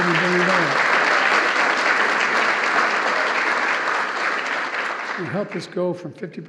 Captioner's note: applause